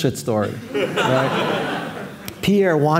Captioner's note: audience laughing